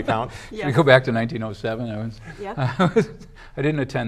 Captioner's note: laughs